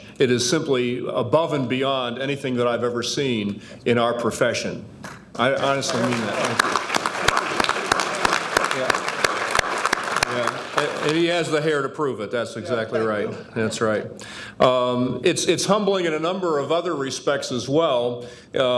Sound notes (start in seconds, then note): 5.4 audience applauding